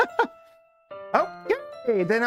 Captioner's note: laughs